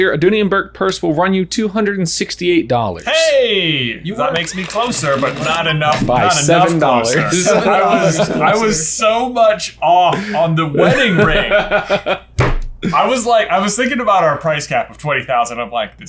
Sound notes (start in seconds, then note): 7.1 everyone laughs